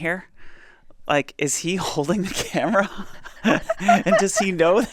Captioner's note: laughs